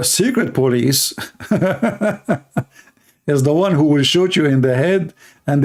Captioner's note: Ketawa